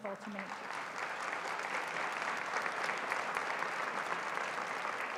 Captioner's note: applause